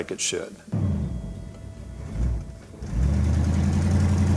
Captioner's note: engine roaring